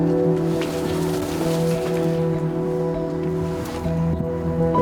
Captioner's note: reeds rustling